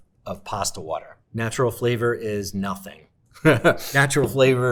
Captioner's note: laughs